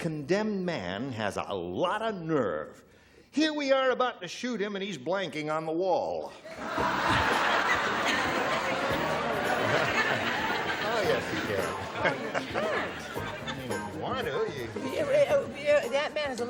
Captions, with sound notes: said that condemned man has a lot of nerve. Here we are about to shoot him and he's blanking on the wall. (laughter) -Oh, yes, he did.